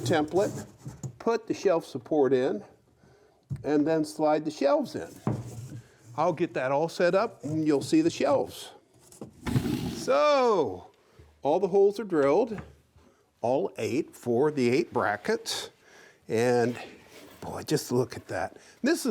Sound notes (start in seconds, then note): none